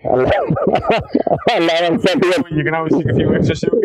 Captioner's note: both laughing